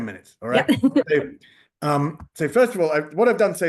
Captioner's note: chuckling